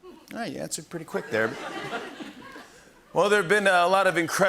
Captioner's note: laughter